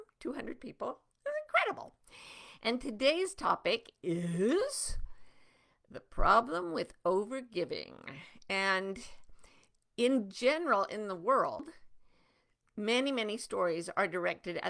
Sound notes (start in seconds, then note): none